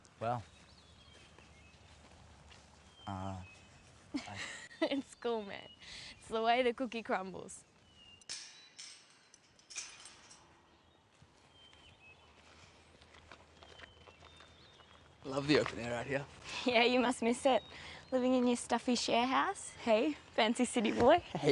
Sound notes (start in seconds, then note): 4.1 laughs; 7.6 birds chirping; 8.2 chain rattling